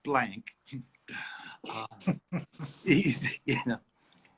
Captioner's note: both laugh